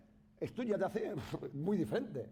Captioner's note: speaking spanish